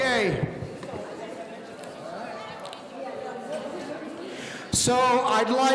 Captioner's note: people in the audience conversing